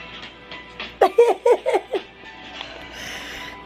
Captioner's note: chill funky music; laughing